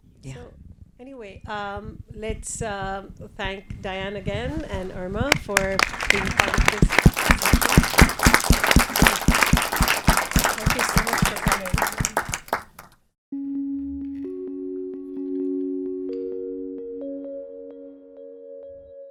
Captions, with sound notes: - So, anyway, let's thank Dianne again, and Irma for. (applauding drowns out speaker) (everybody applauds) That was super great. (Pleasant music)